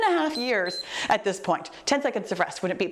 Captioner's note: timer beeps